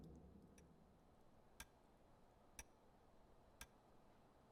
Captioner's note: clock ticking